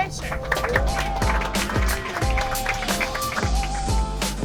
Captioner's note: crowd applauding